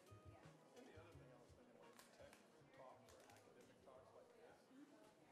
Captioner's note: background chatter